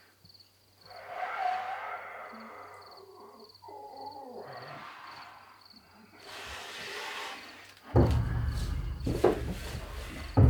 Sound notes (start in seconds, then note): 0.9 muffled breathing